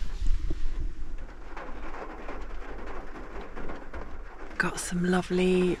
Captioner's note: rain